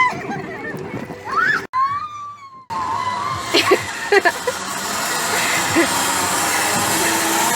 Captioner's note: people laughing and playing; sceaming on zipline